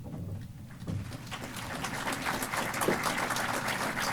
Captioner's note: applause